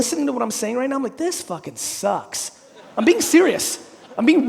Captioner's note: audience laughing